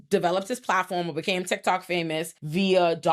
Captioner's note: none